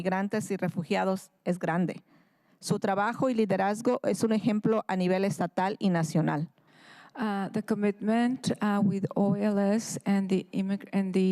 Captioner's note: speaking in spanish